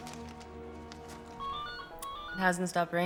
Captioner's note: ringing